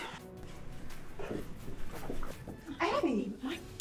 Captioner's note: footsteps tapping